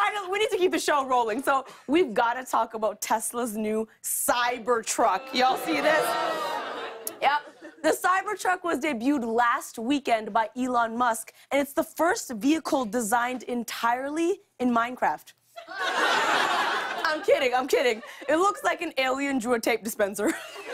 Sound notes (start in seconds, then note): 5.1 scattered boos; 15.5 laughter